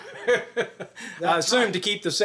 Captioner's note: chuckles